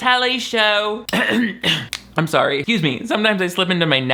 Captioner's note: clears throat